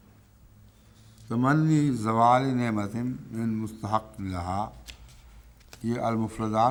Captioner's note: Arabic